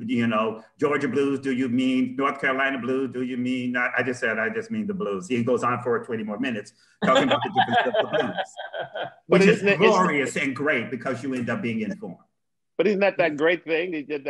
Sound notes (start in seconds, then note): 7.0 laughter